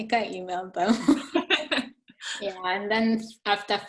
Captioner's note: both chuckling